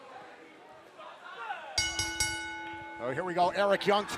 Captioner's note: bell ringing